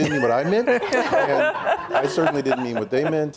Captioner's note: laughing